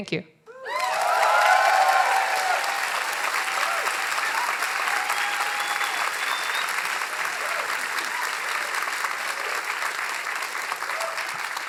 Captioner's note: cheering; applause